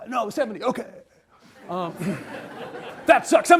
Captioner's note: audience laughs